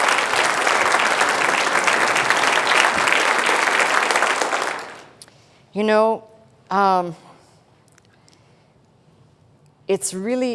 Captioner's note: applause